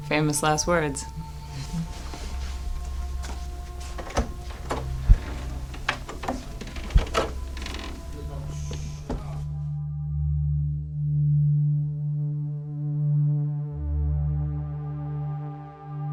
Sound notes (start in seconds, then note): 4.2 door opening; 8.1 mysterious music